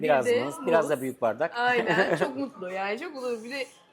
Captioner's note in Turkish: kahkaha